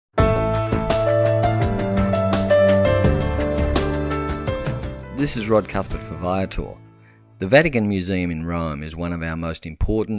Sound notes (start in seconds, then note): 0.2 engaging instrumental music; 4.8 voiceover